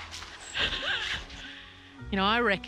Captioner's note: chuckles